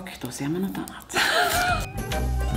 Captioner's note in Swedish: skrattar